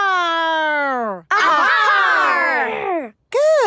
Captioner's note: all shouting